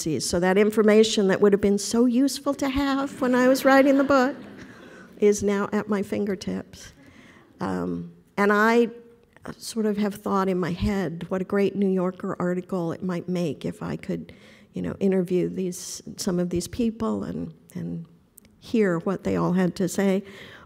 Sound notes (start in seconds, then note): 3.2 laughter